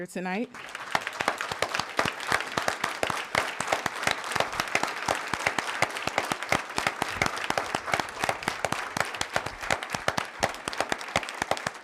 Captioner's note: applause